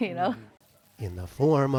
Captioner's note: laughter